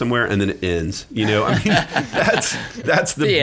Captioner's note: laughing